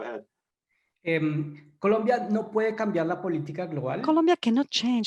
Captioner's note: in foreign language